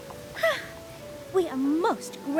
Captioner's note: sighs